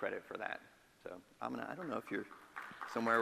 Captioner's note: audience claps